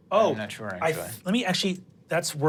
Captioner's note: mumbles